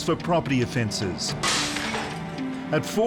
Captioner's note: glass tinkles